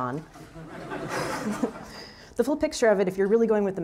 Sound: laughter

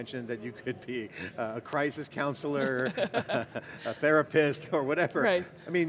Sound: laughing

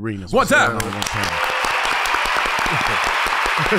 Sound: applause

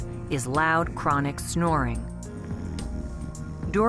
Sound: man snoring

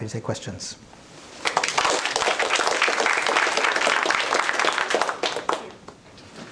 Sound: applause

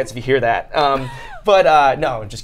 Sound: laughs

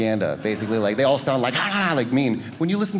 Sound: imitating German

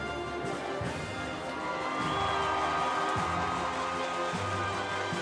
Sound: cheers and applause

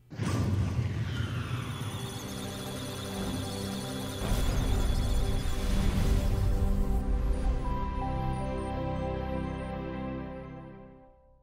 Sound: electronic Sounds of Data; musical Tones

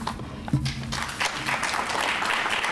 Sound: applause

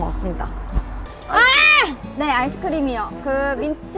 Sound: water deer cries

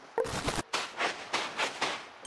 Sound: footsteps

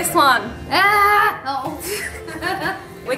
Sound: laughs

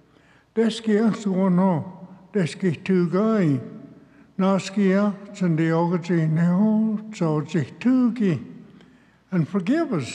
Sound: speaks Cherokee

